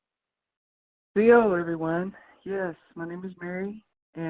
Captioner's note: speaking in foreign language